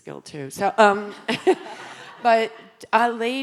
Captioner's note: audience laughing